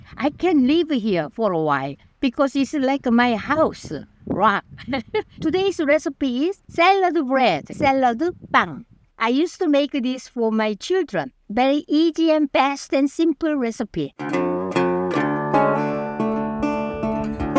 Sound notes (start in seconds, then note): 4.8 laughs; 14.2 wild West music